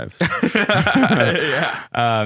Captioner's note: laughing